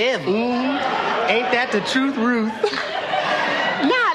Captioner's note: Risos